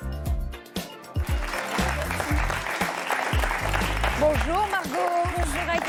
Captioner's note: applause